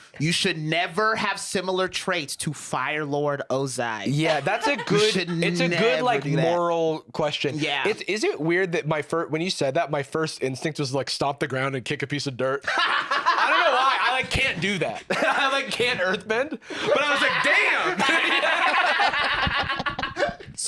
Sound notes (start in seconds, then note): 12.7 laughs; 17.0 both laughing